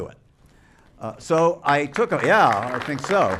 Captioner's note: applause